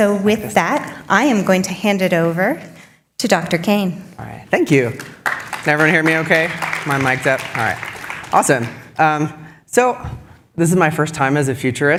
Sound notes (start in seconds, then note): 9.2 applause